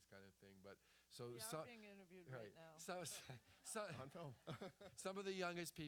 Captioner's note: laughter